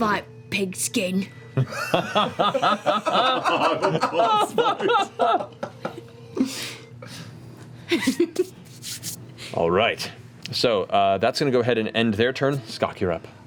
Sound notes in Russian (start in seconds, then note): 3.3 смех